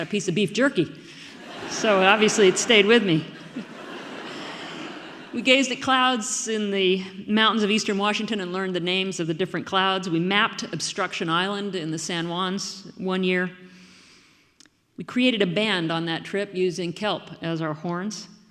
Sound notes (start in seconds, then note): 1.2 audience laughing; 3.3 laughing; 5.4 audience laughing